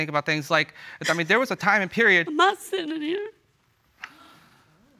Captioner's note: sobbing